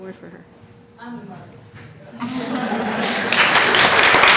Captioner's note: applause